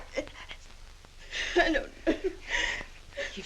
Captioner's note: sobbing